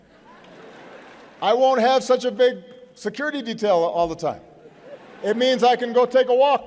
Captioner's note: laughter; laughter